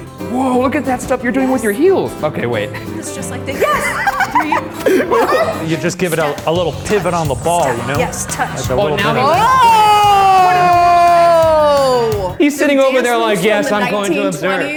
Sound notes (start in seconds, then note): 3.5 laughing; 8.9 exclaims